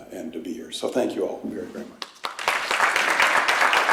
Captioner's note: applause